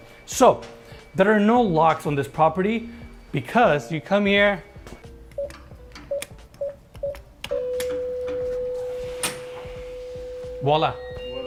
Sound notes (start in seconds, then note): 5.4 keypad beeping